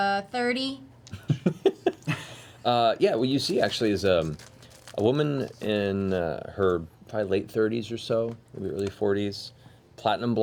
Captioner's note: laughs